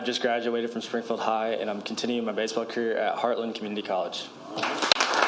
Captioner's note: applause